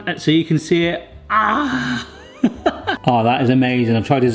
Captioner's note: chuckles